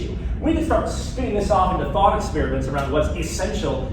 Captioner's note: none